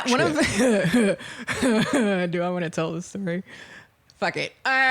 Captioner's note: laughing